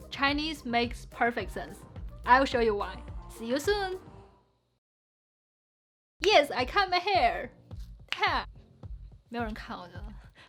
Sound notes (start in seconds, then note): 7.7 fingers snapping